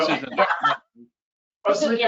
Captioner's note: laughing